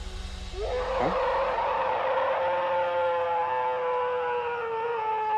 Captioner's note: howling